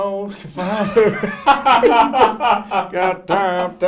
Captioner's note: laughs